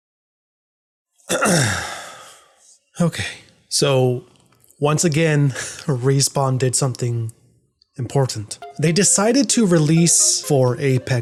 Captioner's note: clears throat